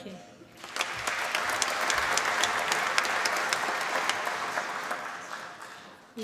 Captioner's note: applause